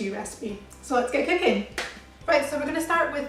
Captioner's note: claps